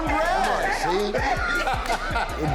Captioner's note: laughter